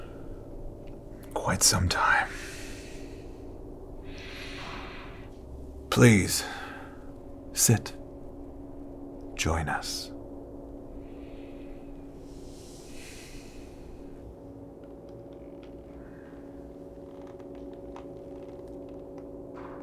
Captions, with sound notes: quite some time. Please, sit. Join us. (breathes uneasily) (floor creaking)